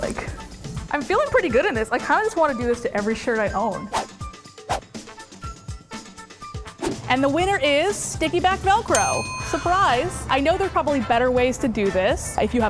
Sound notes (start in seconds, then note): 3.7 upbeat flute music; 8.9 dinging